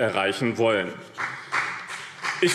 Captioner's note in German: Beifall BÜNDNIS 90/DIE GRÜNEN und vereinzelt CDU